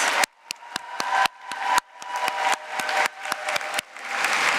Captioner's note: applause